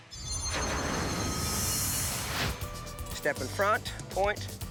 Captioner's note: air whooshing